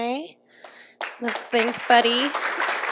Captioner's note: applause